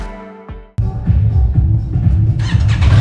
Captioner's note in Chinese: 引擎聲量